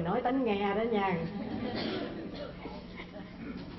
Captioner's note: laugh